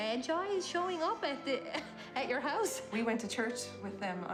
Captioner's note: laughs